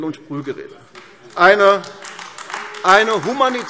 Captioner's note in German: Beifall AfD – Zurufe SPD